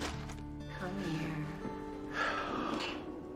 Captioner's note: sighing